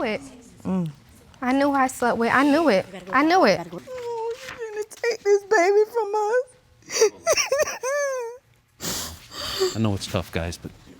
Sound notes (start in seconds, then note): 3.7 sobbing; 6.8 sobbing continues